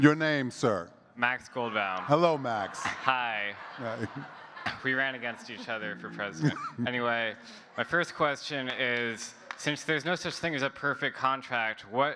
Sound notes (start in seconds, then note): 4.2 audience chuckling; 8.7 chuckles